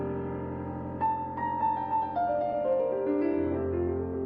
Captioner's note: none